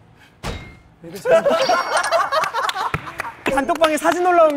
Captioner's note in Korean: 단전 웃음